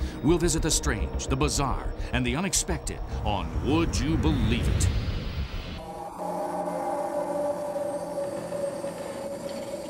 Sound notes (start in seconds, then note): 5.7 spooky noises